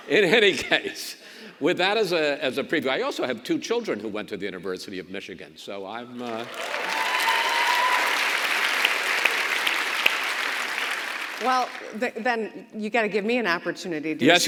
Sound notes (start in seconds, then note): 6.2 audience cheers and claps